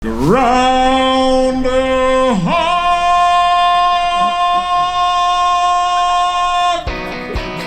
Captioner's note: announcer calling